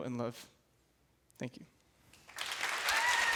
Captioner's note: applause